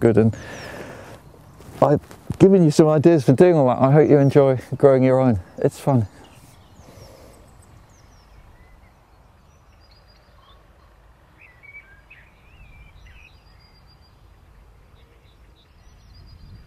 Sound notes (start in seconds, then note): 6.7 birds chirping